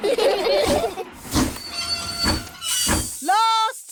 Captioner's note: laugh; train chugs